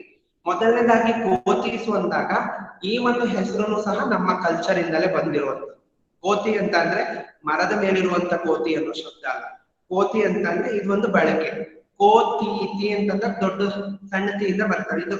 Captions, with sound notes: Firstly, when we consider "Kothis" this name also has come through our same culture "Kothi" means not the animal on the tree (in Kannada) this is "Kothi" with a stressed "tthi"